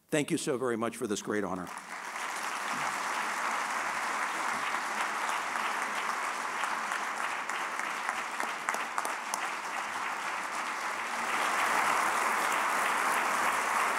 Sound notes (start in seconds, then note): 1.5 applause